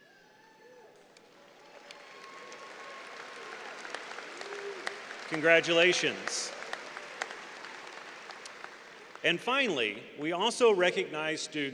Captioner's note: applause